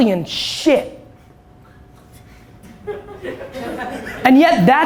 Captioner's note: laughter